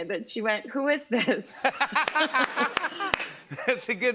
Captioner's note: laughter